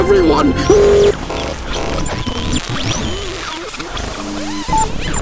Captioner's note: glitches, reversed speech